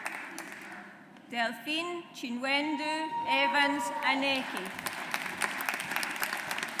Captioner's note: audience applauds